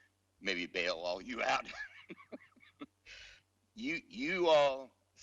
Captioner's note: laughs